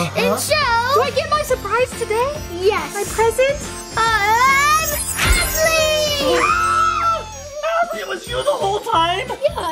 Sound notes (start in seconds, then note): 5.2 everyone screams